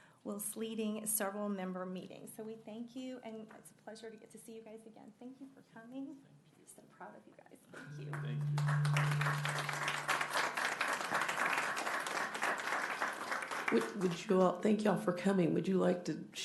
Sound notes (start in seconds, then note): 10.4 applause